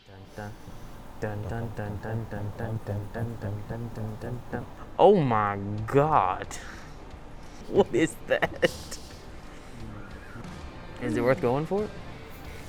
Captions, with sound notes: - Dun-da, dun-dun-dun-dun-dun-dun dun-dun-dun-dun-dun-dun-da. Oh my God, (laughs) what is that? (laughs) Is it worth going for it?